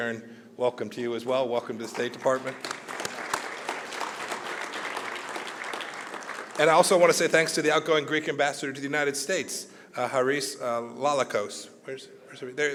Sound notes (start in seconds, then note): 1.8 applause